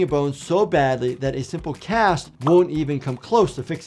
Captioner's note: bubble popping tone